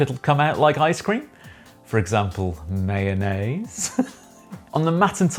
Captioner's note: laughing